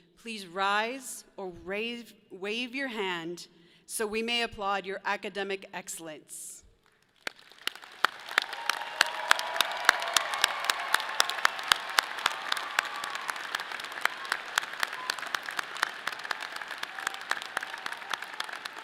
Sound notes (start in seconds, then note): 7.5 audience applauds; 10.1 people cheer